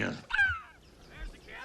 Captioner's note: Ben yelps